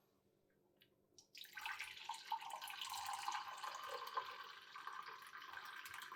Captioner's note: coffee pouring